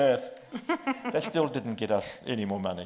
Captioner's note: laughs